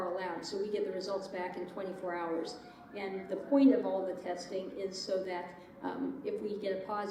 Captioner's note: sirens in background